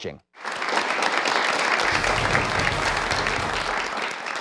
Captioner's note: clapping